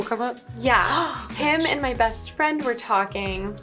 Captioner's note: interviewer gasps